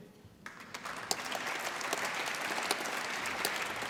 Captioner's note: applause